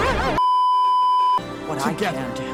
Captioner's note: beeeeeeeeeeeep